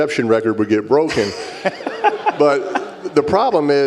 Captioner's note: laugh